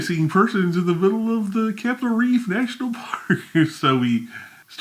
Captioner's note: laughs